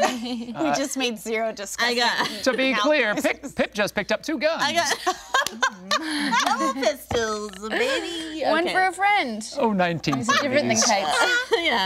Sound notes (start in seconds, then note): 4.7 group laughing